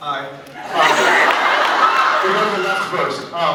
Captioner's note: laughs